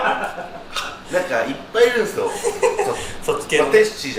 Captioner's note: laughs